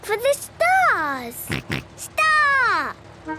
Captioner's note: snort